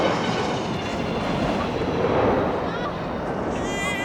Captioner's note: roaring subsides; chattering